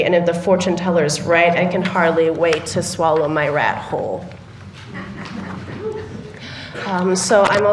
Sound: laughter

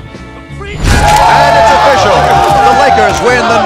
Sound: cheering

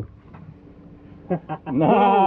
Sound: laughing

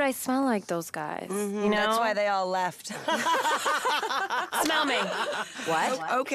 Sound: both laugh

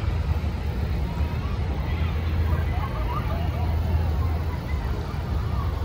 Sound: talking in background

